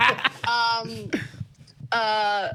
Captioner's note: laughing